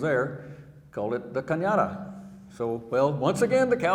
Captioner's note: speaking in foreign language